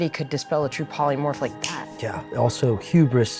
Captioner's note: fingers snapping